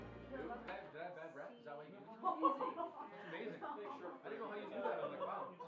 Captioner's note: music fades out; indistinct chatter